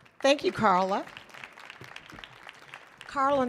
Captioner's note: audience applauding